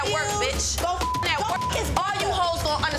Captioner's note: beep